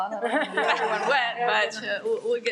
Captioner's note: everyone laughs